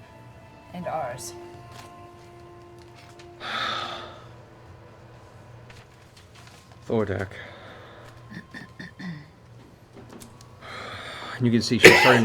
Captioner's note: sighs deeply